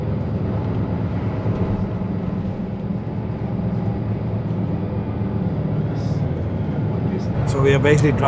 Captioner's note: sound of bus driving